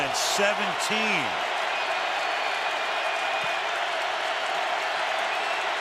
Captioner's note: crowd cheering